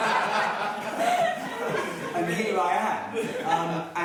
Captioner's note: laughing